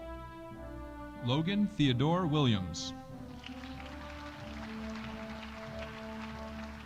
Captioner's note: audience applauding